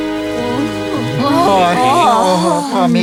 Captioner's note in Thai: ครวญคราง